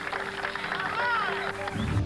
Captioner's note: cheering